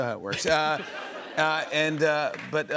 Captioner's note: laughter